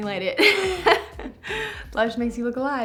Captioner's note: laughs